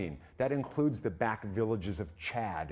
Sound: none

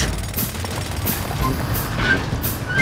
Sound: drilling

